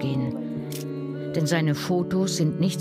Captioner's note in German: Klicken